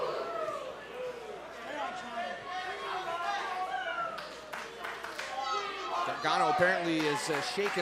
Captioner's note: crowd cheering